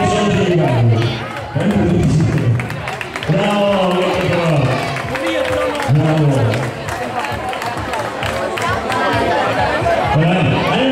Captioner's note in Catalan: Aplaudiments